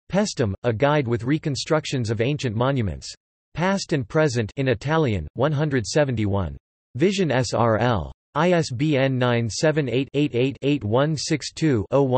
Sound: in Italian

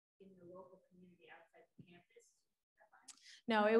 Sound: voice muffling

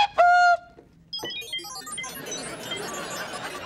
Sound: beeping

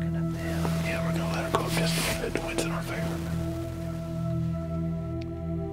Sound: whispering

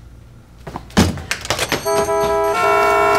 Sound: spoons clanking; horns blowing

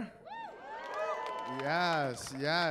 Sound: cheering

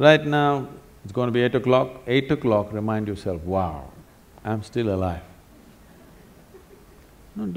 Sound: laughter

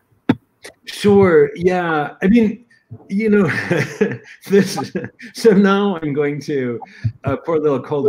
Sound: laughter

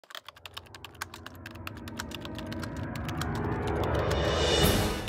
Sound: typewriter sounds

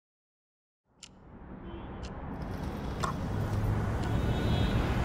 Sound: clock ticking

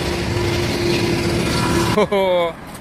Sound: sound of the train

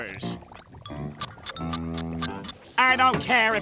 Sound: ticking

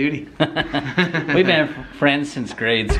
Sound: laughing

